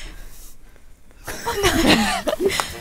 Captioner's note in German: lacht